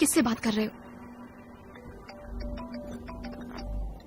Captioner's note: phone ringing